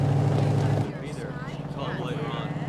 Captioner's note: people chattering